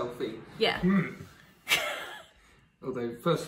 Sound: giggles

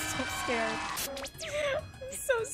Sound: alarm blaring; wheezes

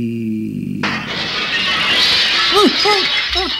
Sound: crashing

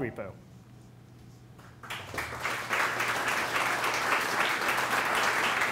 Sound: applause

